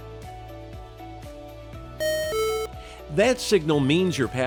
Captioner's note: low-pitched double beep